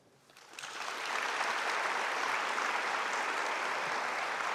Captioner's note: audience applauding